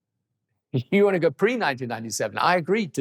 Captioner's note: chuckles